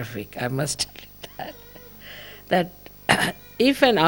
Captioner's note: laughing